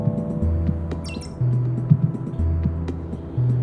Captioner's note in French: L'ordinateur fait bip